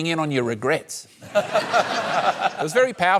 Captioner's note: laughs